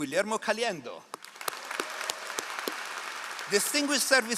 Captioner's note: all applauding